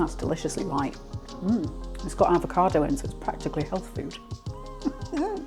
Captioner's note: laughs